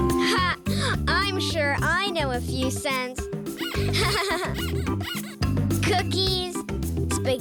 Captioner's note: laughing